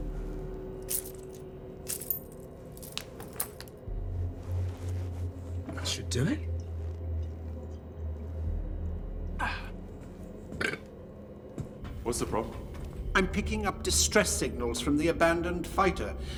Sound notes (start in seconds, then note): 0.6 clinks, clanks; 10.6 grunts, burps